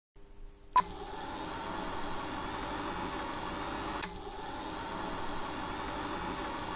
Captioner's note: film reel beeps; film reel whirs